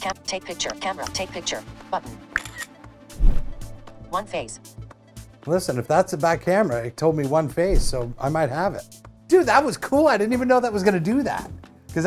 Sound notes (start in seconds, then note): 2.3 camera shutter; 3.2 whoosh